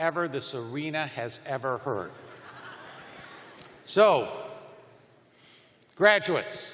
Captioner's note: laughter